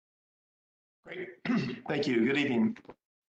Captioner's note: cough